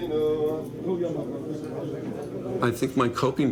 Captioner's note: men chattering in foreign language